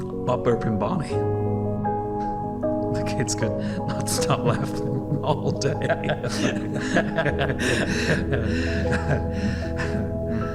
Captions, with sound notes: "Butt Burpin' Bonnie". The kids could not stop laughing all day! [CHUCKLES] [LAUGHTER]